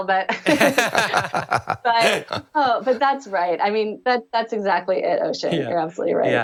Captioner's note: laughter